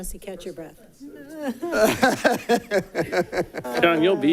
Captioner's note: laughs